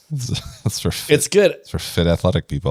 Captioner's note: laughs